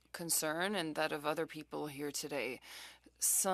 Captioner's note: speaking French